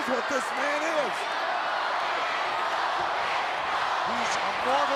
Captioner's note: crowd cheering